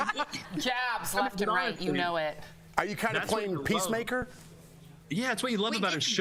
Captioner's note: laughter